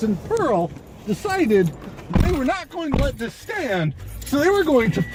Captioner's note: car door opening and closing, car starting